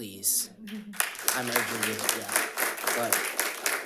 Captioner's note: audience applauds